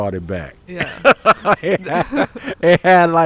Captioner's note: laughing